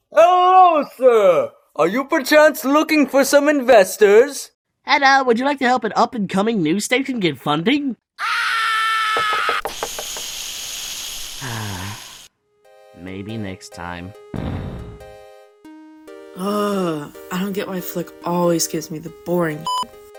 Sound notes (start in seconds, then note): 8.2 A scream of alien fear; 11.4 sigh; 14.3 explosion